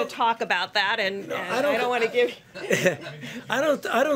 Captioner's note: laughs